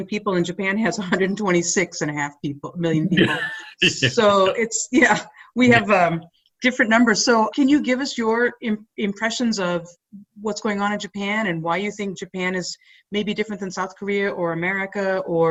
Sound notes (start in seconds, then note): 2.9 laughing